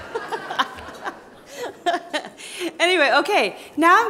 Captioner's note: laughing